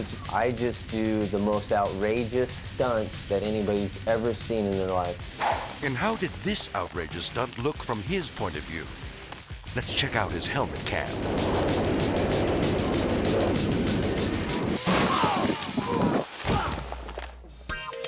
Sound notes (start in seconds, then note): 12.0 intense rock music; 12.0 wind howling; 14.8 bike crashes; 15.0 grunts; 16.7 groans